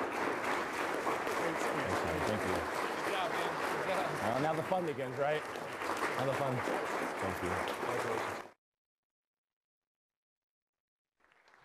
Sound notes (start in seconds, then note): 5.2 applause drowns out speech